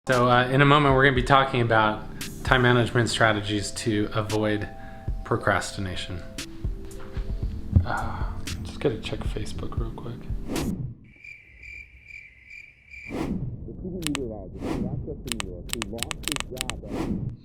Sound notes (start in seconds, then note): 11.0 crickets chirping; 15.2 remote clicking